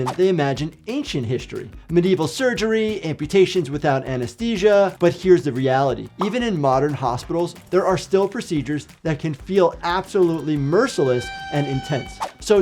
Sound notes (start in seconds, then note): 7.0 bubble popping tone